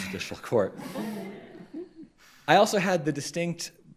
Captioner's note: crowd chuckles